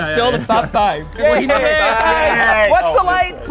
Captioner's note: all cheering